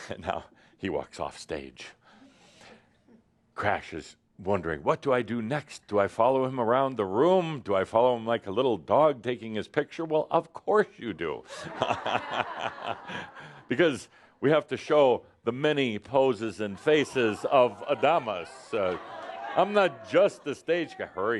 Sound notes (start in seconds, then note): 11.4 laughter